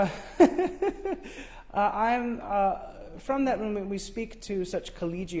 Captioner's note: laughs